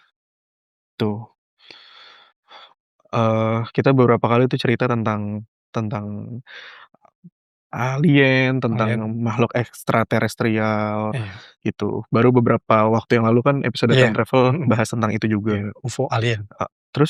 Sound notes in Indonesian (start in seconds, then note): 1.4 menghela napas; 3.0 terkesiap